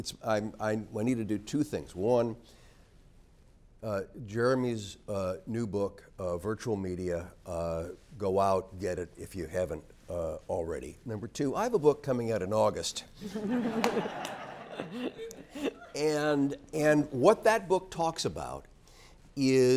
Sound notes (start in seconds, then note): 13.3 laugh